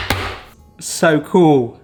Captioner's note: hand banging